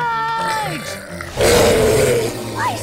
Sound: roaring

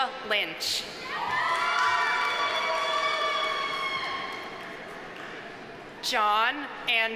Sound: audience cheering; audience applauding

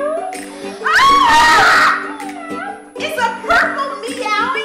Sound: screaming

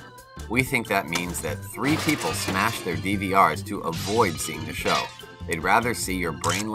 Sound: hammer smashes TV screen

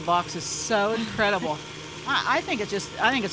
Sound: chuckles

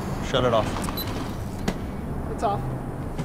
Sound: camera beeping

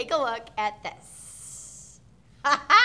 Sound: laughing

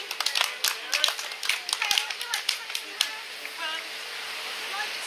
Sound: clapping

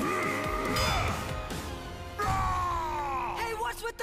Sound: shouting

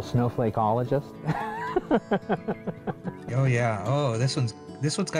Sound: laughing

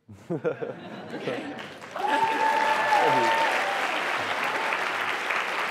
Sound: applause

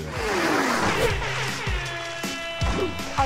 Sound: siren blaring

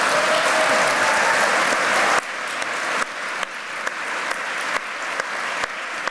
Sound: applause and cheering

